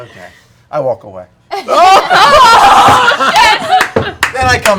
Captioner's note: laughter